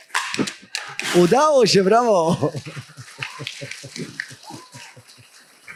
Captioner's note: brawa/applause